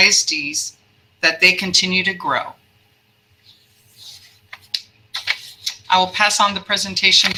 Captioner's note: papers ruffling